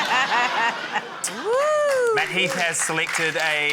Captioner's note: laughter; chuckles; applause